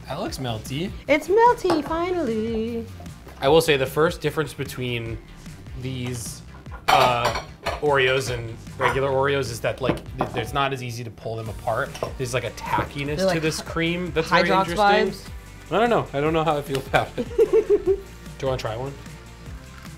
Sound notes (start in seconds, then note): 17.2 laughs